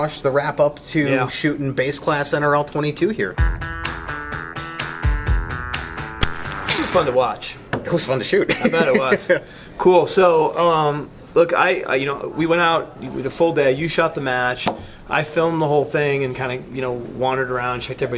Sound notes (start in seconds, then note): 3.4 upbeat music; 8.6 laughs